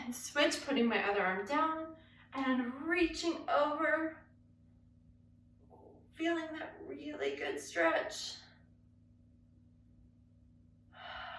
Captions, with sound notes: and switch, putting my other arm down and reaching over, feeling that really good stretch. (exhales)